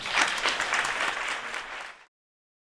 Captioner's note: applause